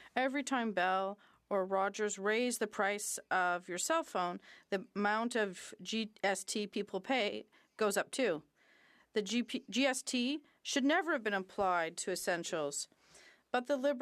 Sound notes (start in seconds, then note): 2.5 speaking French